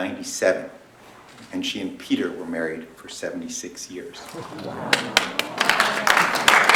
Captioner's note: applause